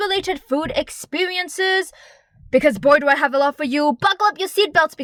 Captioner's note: dep breth